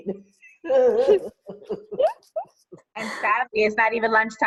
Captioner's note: laughing